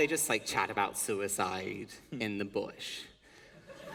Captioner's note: laughter